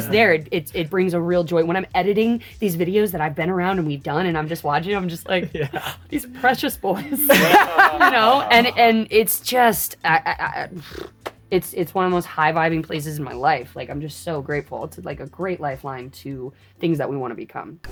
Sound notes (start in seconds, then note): 6.9 all laugh; 10.8 lip trill